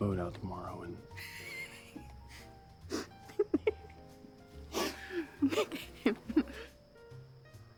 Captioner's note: laughing